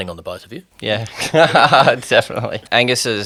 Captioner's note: laughing